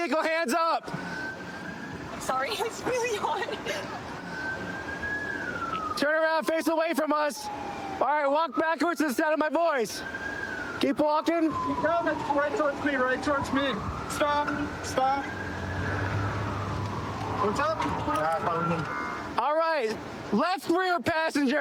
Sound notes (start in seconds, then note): 3.6 siren wailing